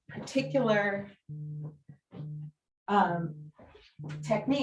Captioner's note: phone vibrating